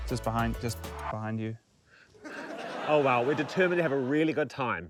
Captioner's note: laughter